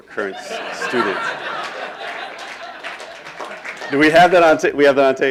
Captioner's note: laughing